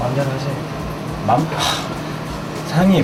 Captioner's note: sighing